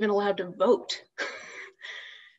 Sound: laughs

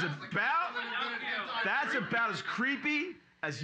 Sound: audience shouting

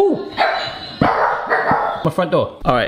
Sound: dog barking

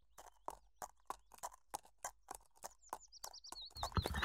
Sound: hoofsteps; neighs

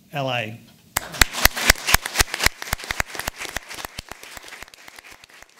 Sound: audience applauding

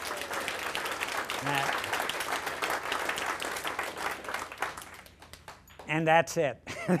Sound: applause; laughter

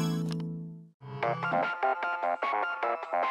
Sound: funky ringtone returns

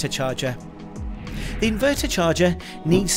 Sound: transition whooshing

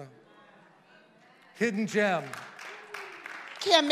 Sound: congregation applauding

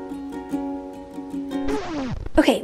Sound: record scratching sound

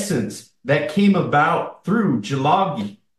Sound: foreign language

